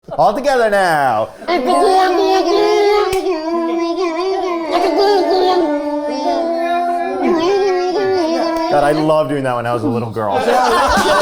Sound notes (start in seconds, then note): 1.4 everyone makes silly sounds; 10.2 everyone laughs